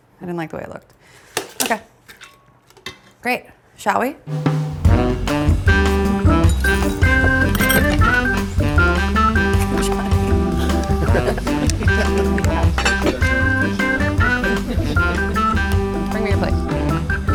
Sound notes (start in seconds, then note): 5.1 cheerful music; 11.4 cheerful music continues; 11.4 people chattering